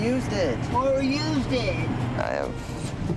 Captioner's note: mockingly